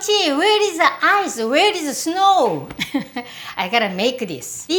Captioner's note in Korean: 웃음소리